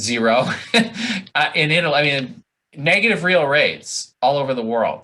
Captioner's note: laughs